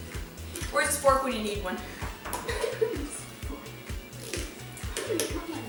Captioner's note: laughter